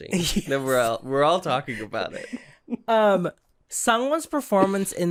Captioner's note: giggles